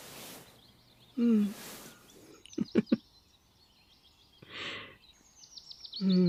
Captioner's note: laugh